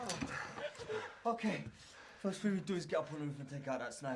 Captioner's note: laughing and cheering